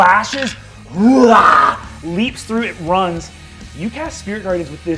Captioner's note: mimics roaring